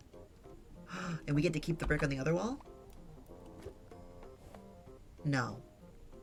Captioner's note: gasps